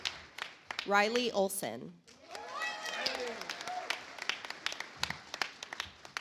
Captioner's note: audience applauds